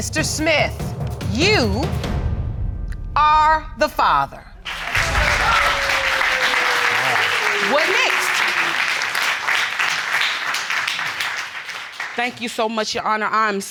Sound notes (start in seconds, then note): 5.4 audience applauding